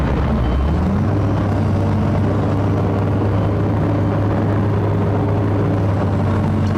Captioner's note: diesel Sound